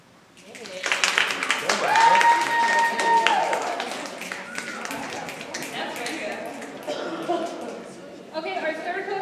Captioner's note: audience applause